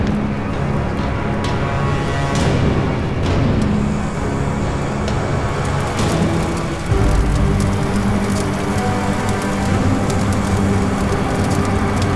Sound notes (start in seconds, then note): 5.4 fire crackling